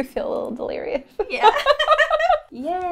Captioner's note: laughter